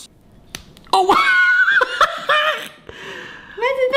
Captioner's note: laughing